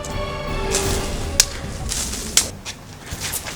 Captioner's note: fighting noises